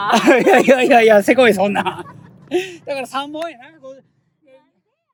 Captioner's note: laughs